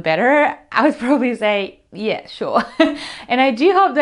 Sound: laughs

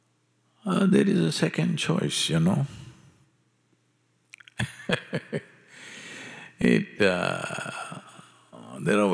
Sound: laughs

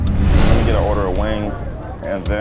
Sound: scene whooshing

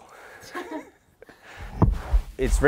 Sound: people laughing

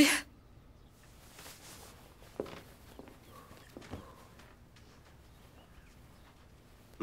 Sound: silence

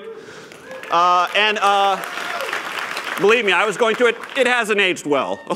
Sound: applause

